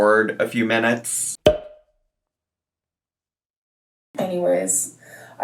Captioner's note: pop sound